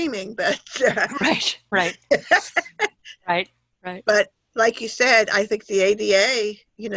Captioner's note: laughter